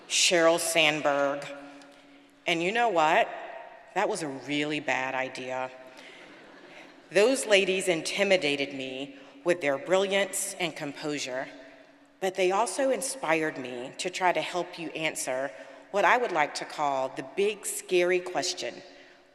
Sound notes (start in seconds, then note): 6.0 audience laughing